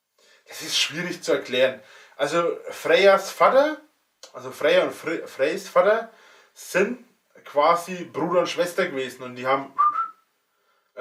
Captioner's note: whistles